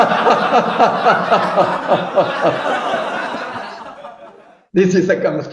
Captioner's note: laughing